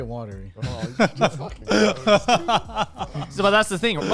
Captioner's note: laughing